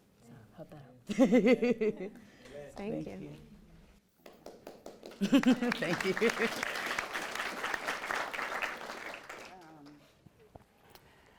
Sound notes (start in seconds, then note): 1.3 laughs; 4.2 audience claps